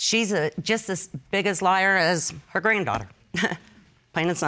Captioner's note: chuckles